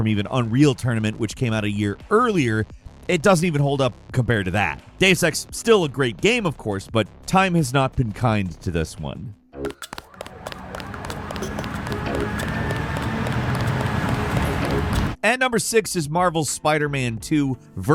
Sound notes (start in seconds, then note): 9.7 footsteps running; 10.0 engine whirring